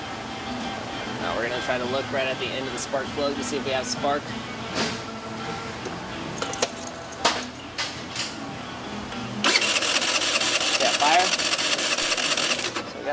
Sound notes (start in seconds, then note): 9.4 engine trying to fire